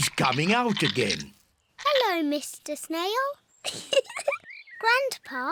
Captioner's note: giggles